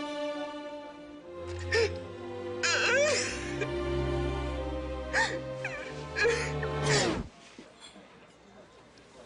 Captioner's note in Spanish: Sollozos